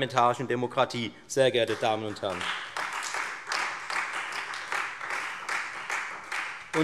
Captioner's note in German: Beifall Freie Demokraten und vereinzelt SPD